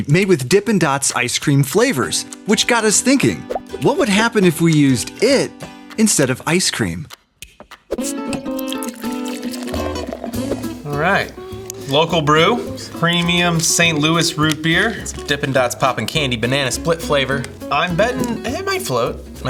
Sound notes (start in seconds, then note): 8.8 liquid pouring